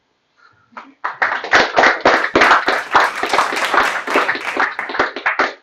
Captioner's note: applause